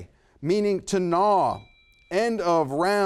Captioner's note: bell rings